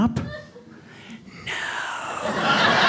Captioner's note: whispering; audience laughs